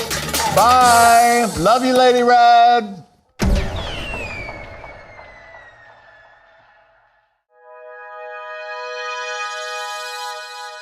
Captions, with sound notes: Bye! Love you, Lady Red! (fireworks whistling) (bright music)